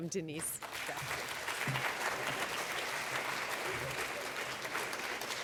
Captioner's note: clapping